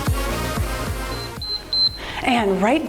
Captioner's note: timer beeps